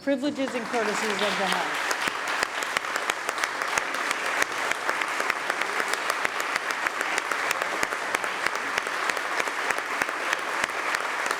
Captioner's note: applause